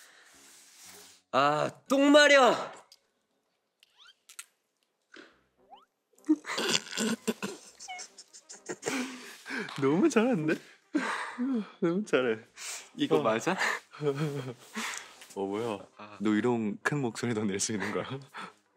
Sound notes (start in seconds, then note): 2.7 suppressing laughter